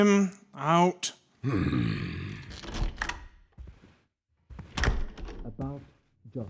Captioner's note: heavy footsteps exiting, and the door closes